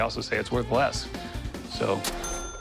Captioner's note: ding